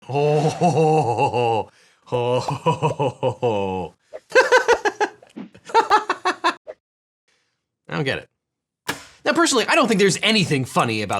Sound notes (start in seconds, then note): 4.6 he laughs